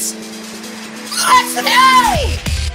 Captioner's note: voice crack